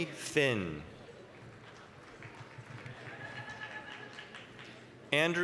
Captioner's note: applause